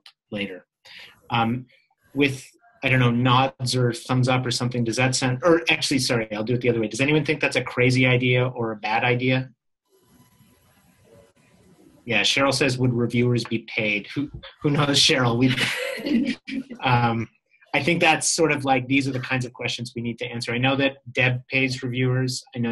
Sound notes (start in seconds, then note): 10.3 pause; 15.4 laughter